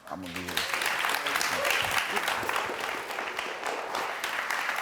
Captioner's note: audience clapping